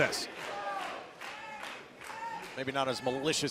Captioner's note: crowd cheering